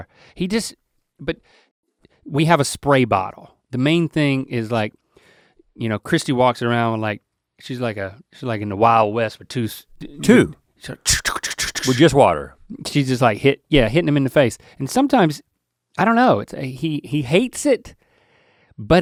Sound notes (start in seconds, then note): 11.0 Link imitates bottles squirting